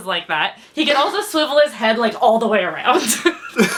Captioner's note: laughs